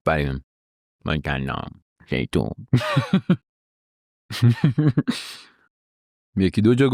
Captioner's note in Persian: خنده